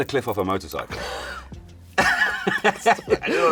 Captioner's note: laughter